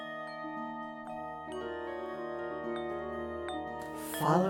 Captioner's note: bells tinkling